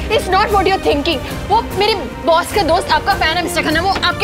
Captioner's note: Door closes